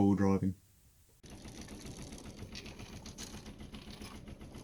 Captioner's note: chain rattling